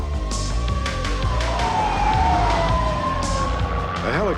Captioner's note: sirens wail